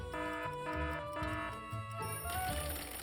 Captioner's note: alarm ringing; timer rings